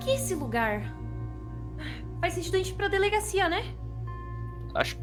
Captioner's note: sighs